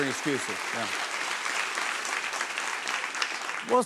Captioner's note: applause